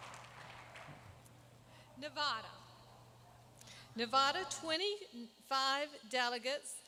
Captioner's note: applause